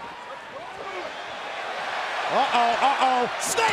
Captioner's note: audience cheering